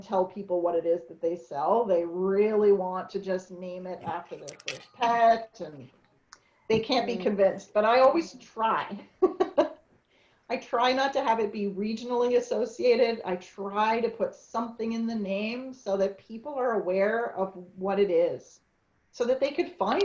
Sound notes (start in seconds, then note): 9.1 chuckles